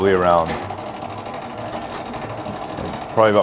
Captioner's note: machine rattling